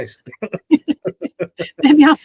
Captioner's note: laughing